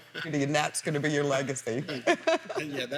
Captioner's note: laughs; laughs